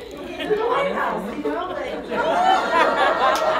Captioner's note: crowd laughs